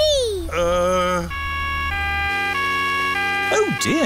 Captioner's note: siren wailing